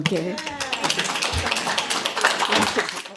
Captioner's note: applause